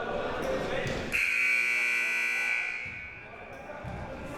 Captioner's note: buzzer